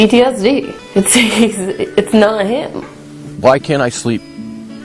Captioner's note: laughs humorlessly